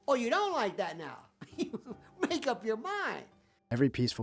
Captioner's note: laughs